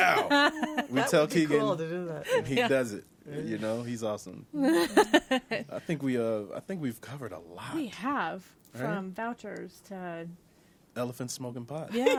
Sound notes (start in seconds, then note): 4.6 laughs